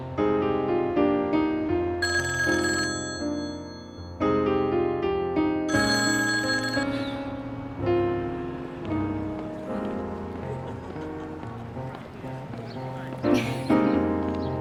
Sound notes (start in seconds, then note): 2.0 rings; 10.1 laughs; 10.6 woman Laughing